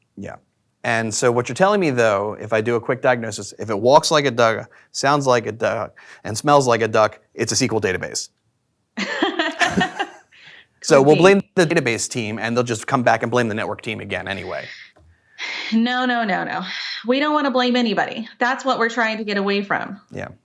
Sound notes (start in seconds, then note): 9.0 both laugh